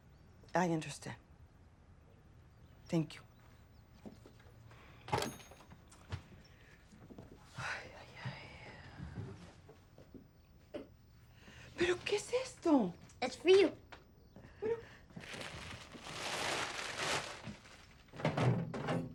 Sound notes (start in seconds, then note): 11.9 speaking in Spanish